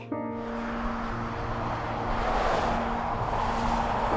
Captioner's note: traffic noise